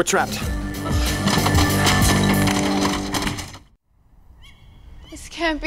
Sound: dramatic music; group rattles doors; nocturnal animal noise

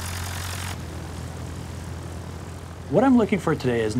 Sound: airplane rumbles

